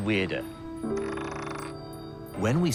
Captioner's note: coins clatter